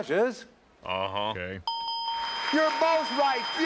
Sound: dinging

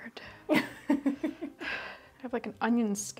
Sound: laughs

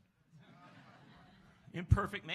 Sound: laughs

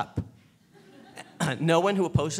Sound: laughing

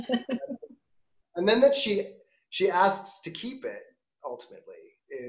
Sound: laughing

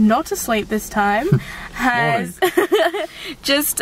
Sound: laughs

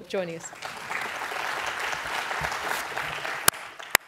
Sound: applause

